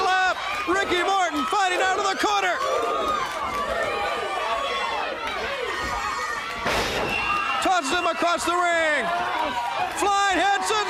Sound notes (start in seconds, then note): 3.9 crowd chatter